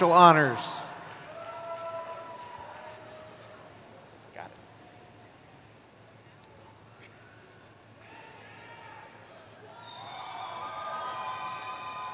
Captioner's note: cheering